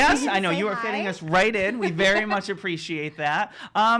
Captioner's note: laughing